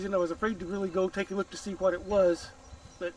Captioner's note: none